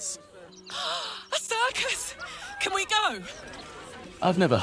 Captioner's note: gasps